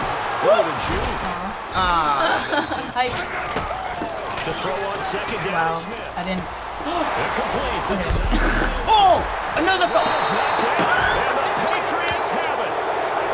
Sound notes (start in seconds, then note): 2.0 laughs; 8.2 laughs; 8.3 gasps